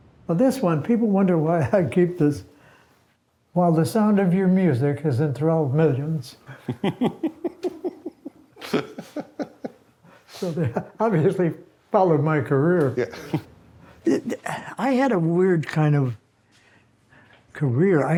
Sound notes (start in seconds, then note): 6.5 interviewer laughs